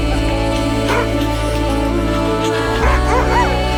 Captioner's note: dogs barking